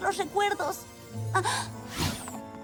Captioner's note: gasp